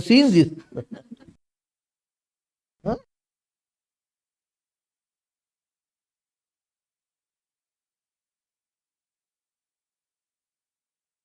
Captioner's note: laughs